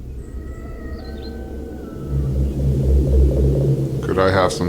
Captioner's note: birds chirping; eerie music